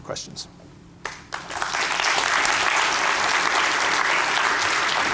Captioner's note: applause